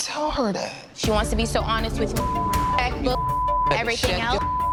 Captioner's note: beep